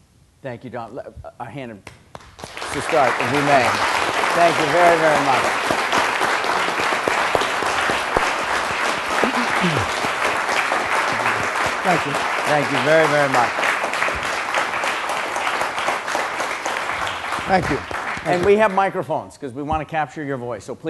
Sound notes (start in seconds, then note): 5.3 applause